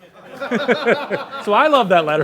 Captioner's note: audience laughs